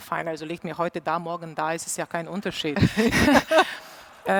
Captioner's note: laughs